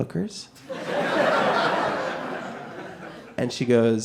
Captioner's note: audience laughing